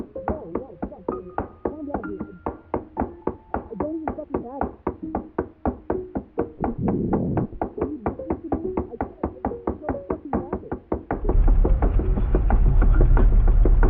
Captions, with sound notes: [MUFFLED VOICE] [MUFFLED VOICE] [MUFFLED VOICE] Come on, come on...